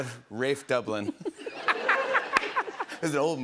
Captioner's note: laughter